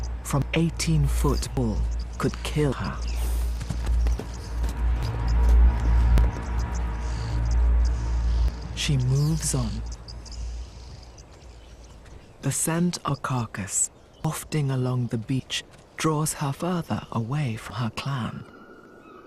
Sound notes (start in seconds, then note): none